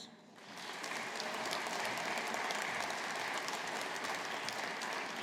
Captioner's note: audience applauding